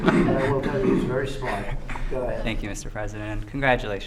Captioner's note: laughter